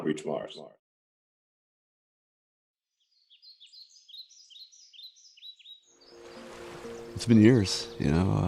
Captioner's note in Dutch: Gefluit van vogels